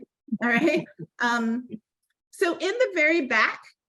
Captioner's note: laughing